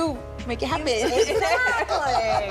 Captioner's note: laugh